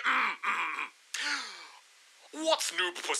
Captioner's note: clears throat; takes deep breath